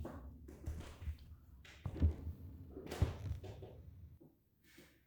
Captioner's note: stairs rattling